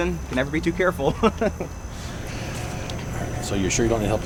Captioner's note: Justin giggling